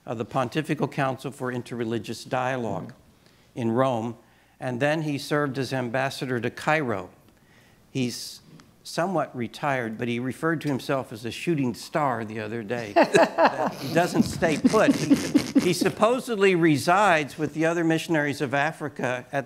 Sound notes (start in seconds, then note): 12.8 laughing